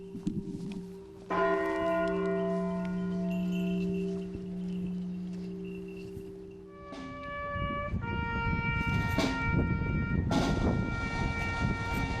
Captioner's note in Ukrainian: Церковні дзвони. Лунає оркестр